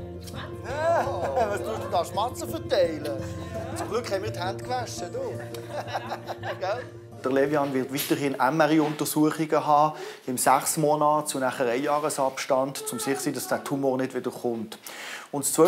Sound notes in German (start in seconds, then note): 6.7 Lacht